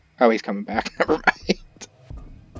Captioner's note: laughs